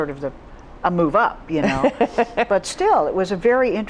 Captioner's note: laughs